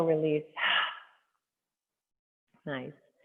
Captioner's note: exhaling